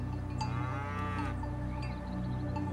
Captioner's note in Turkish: Hayvan sesi